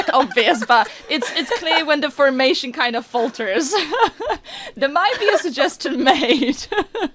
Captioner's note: laughs; laughs